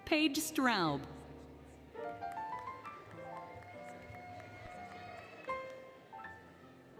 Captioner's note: applause, Cheering, Music